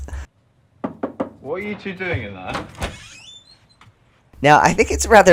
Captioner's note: knocking